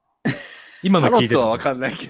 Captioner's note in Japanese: 笑い